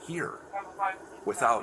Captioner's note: radio chatter